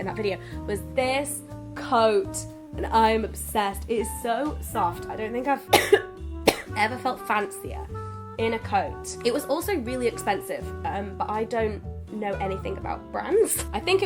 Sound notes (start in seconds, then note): 5.7 cough